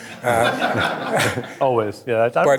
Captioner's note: audience laughing